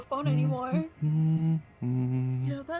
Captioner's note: humming